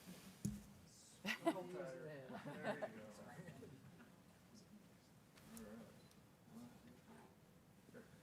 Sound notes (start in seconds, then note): 1.3 people chattering